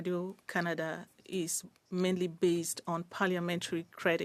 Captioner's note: speaking French